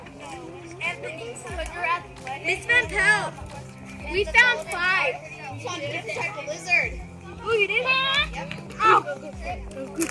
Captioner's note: students chattering excitedly